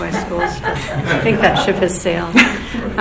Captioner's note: laughing